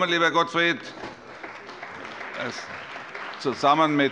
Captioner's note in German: Allgemeiner Beifall